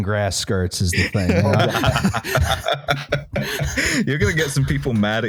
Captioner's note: laughs; laughter